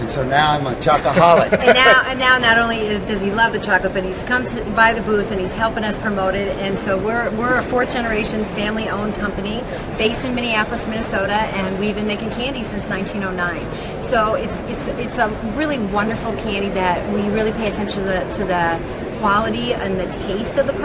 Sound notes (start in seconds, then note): 1.0 laughs